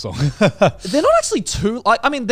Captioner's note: laughing